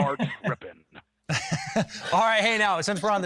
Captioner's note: laughing